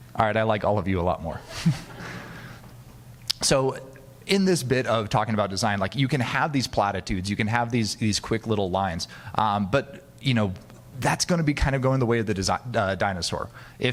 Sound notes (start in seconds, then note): 1.7 audience laughing